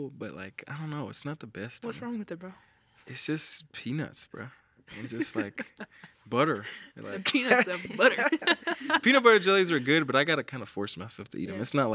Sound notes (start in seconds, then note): 4.9 laughs; 8.8 laughs